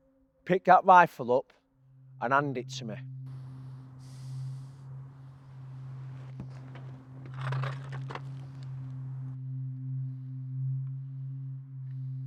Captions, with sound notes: Pick that rifle up and hand it to me. (rifle drags)